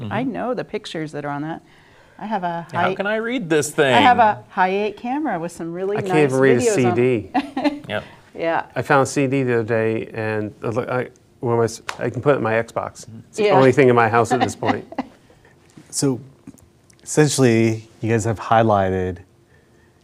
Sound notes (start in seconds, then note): 7.3 laughing